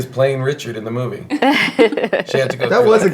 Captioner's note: laughing